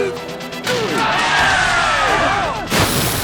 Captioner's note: cheering